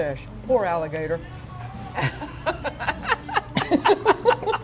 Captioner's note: laughs